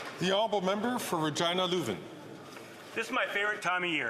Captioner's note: some Applause